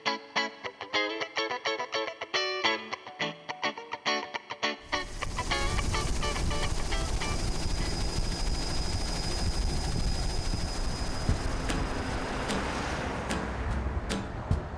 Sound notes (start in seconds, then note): 4.8 helicopter whirring